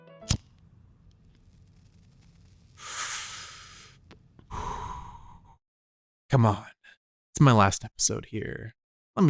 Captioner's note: cuts music, followed by cigarette puff sound